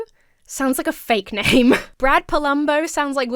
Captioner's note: chuckles